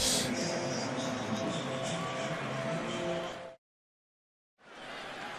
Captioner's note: pa announcement